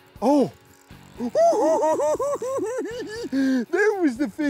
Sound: giggles

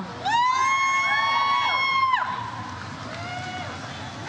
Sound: audience cheers

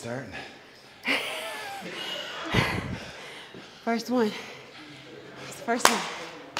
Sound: laugh

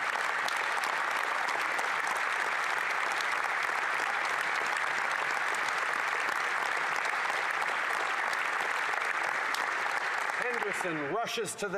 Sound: applause

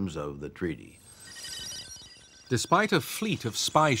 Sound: electronic beeping, chirping

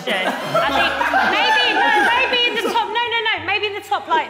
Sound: Sidemen laughing

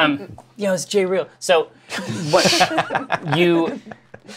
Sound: laughter

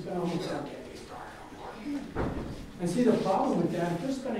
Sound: coughing drowns out speaker

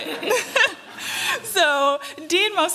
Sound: laughter

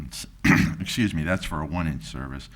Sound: clears throat

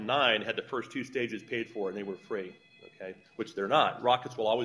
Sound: cell Phone Rings

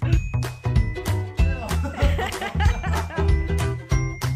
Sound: laughing

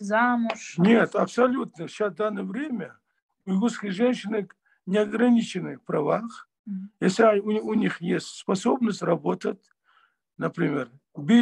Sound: in Russian

